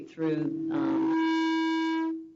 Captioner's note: microphone feedback